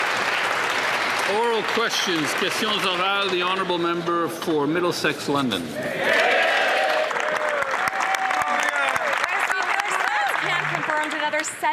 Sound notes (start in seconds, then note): 6.0 some Applause